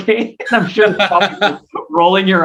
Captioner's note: laughs